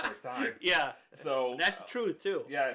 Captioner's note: laughs